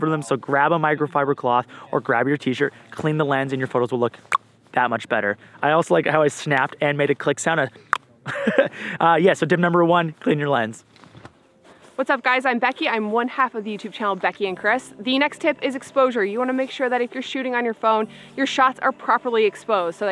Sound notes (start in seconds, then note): 4.3 tongue clicks; 7.9 clicks tongue; 8.2 laughs